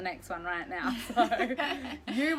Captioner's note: laughter